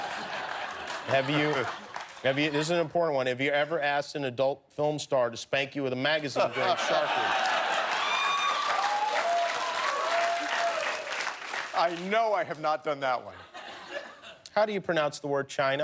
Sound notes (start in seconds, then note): 3.4 laughter; 9.9 cheers and applause